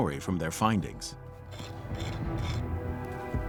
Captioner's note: scraping